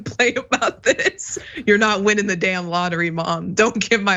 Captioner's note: laugh